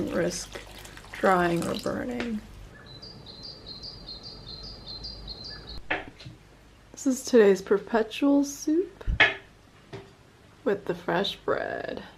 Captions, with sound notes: risk drying or burning. [birds chirping] This is today's perpetual stew with the fresh bread.